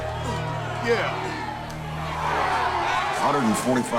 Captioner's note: crowd cheers